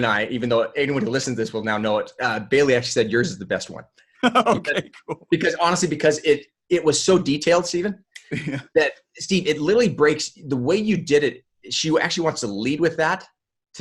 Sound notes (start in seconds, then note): 4.2 laughs